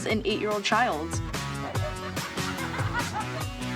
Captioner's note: laughter